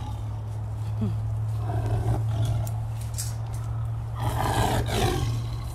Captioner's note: growling